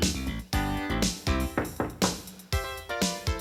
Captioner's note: knock at door